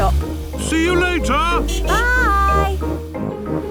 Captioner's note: honking